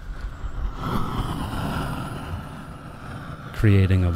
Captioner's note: sound of rushing air